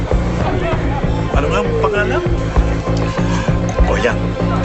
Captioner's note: speaking in another language